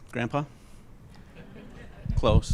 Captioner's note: laughter